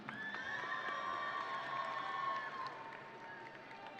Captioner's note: audience cheering